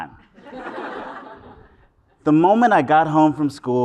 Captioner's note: laugh